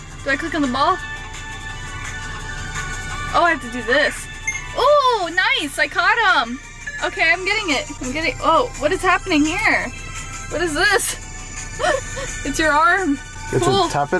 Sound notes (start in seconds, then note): 1.1 game music; 4.4 beep; 11.8 laughs